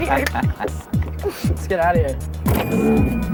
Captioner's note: laughing